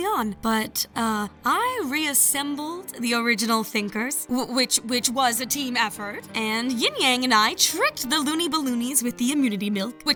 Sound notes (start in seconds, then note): none